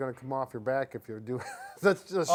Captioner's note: laughing